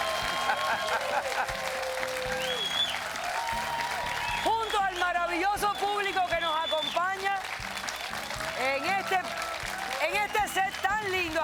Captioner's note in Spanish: Aplausos